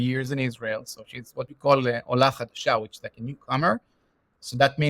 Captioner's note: Hebrew